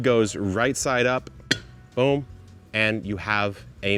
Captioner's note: lid clinks